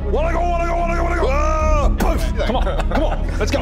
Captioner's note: boosh